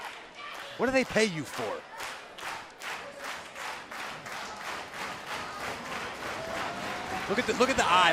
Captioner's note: clapping